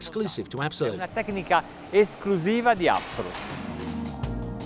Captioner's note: speaks Italian; upbeat music